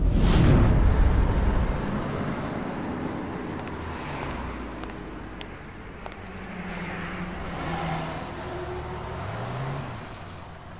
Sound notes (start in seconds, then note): 4.7 boots click